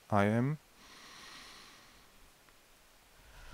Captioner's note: inhale sound